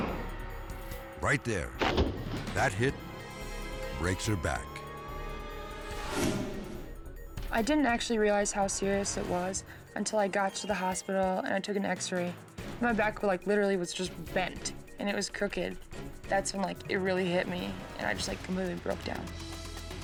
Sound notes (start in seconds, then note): 1.5 tube thudding; 4.7 sirens blaring; 6.1 air whoosh